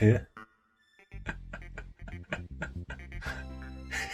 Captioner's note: laughing